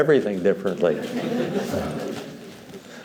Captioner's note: laughter